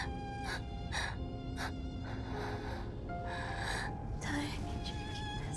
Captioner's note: gentle music continues; Kira sobbing